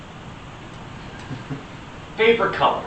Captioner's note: giggles